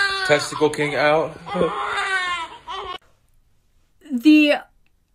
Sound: baby crying

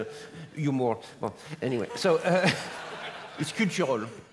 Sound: laugh

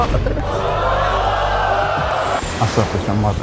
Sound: audience screaming

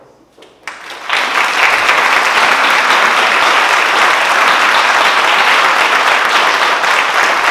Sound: applause

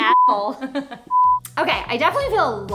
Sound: laughs

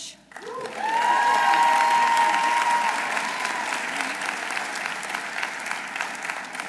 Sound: audience applauding; audience cheering

